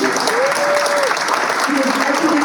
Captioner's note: applause